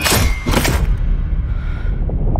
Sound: shuddering breath

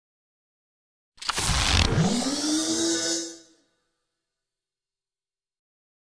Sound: sound of robot

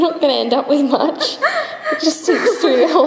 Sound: laughs

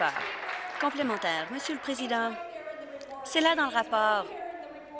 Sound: applause

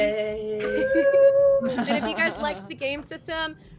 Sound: overlapping cheering and laughter

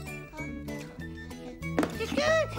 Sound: thwack!

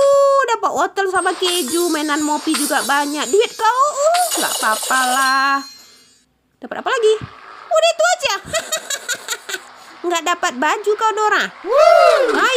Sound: applause

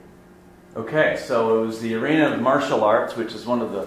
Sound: voiceover

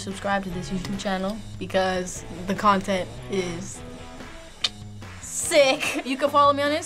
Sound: clicking tongue

